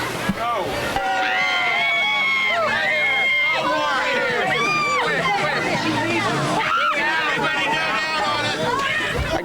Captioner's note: people screaming with delight while director yells commands